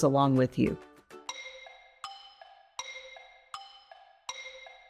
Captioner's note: clock ticking